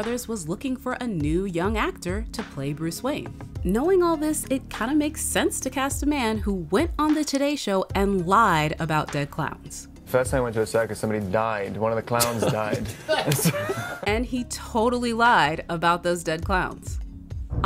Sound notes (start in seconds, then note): 12.1 laughs